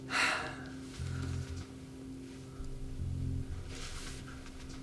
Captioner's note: sighs